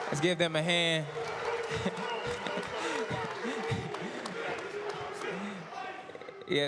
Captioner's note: applause